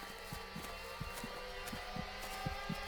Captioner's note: heart beating